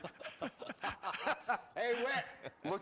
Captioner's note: laughing